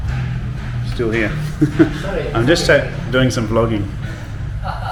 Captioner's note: laughing